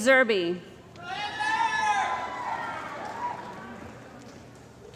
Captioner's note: cheering & Applause